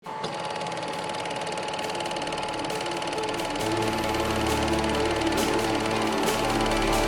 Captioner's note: film reel whirring; suspenseful music